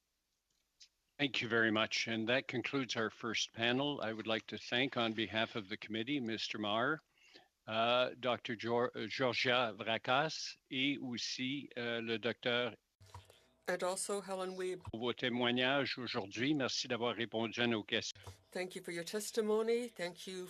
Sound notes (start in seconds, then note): 18.0 speaking French